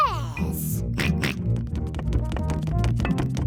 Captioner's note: snorts; george oinks